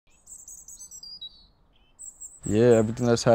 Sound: birds chirping

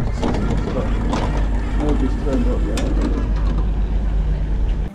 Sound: train door opening

